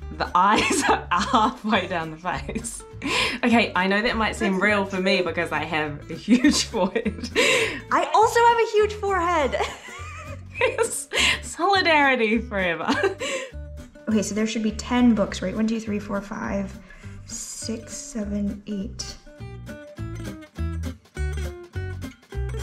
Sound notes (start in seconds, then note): 9.5 both laughing; 19.9 bouncy music